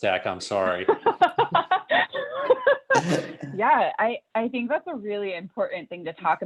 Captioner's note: laughter